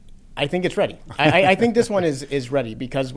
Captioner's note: laughs